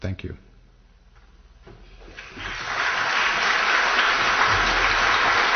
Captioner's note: applause